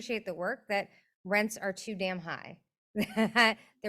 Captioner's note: chuckles